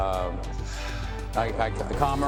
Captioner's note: sighs